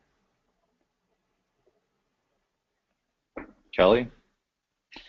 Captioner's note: pause